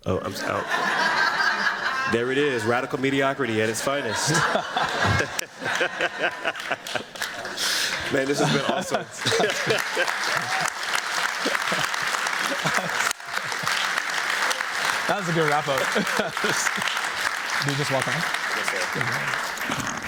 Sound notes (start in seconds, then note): 0.2 laughter; 9.3 laughter, applause